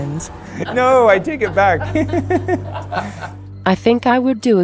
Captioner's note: laughing